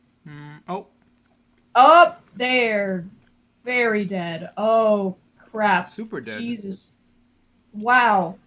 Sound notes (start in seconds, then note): 5.7 cheerfully